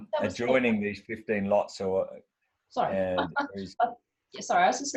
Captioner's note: laughs